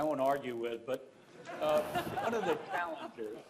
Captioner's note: laughter